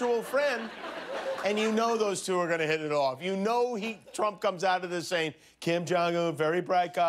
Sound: laughter

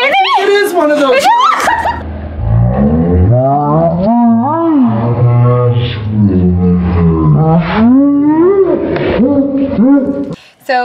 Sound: slo-mo sounds

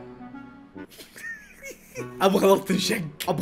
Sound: laughs

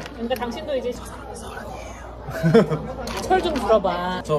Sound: laughing

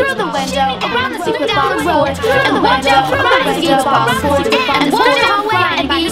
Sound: overlapping, sped-up instructions

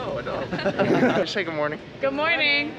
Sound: laughs

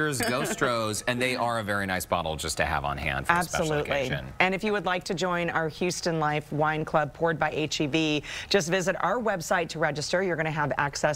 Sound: laughter

